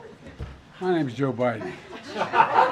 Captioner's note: laughter